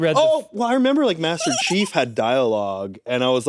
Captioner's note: giggles